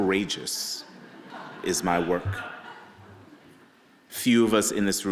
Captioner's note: audience laughing